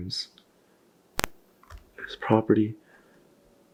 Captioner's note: static crackles